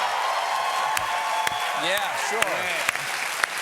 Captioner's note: cheers and applause